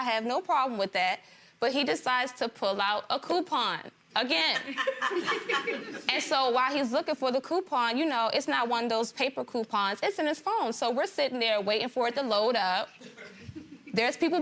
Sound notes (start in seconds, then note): 4.6 gallery laughs